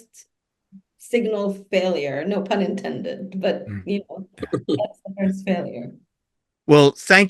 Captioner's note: chuckles